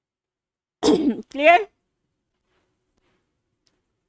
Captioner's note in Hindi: गला साफ़ करने की आवाज़